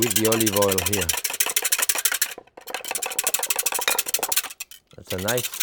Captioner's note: whisk rattling